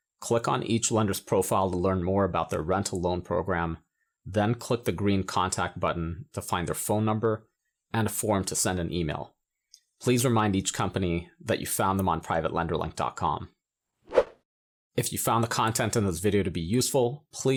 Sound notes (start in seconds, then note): 14.1 transition whooshing